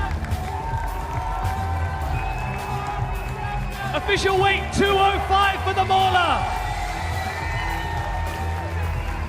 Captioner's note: cheers and applause